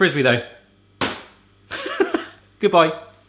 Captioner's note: pancake bangs; laughs